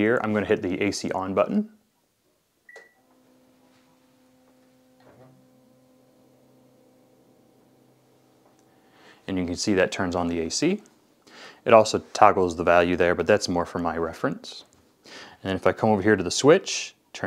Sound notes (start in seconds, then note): 2.6 air conditioner beeping